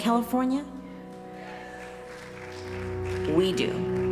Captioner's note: applause